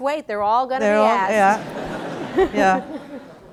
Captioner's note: laughter